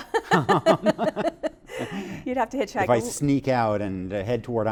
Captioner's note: laughter